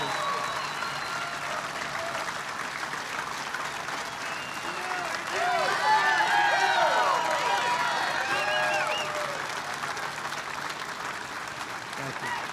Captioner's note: applause